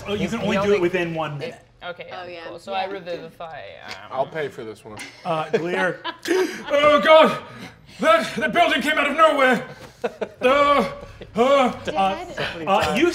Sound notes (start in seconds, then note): 6.4 gasps; 9.2 laughing; 10.4 gasping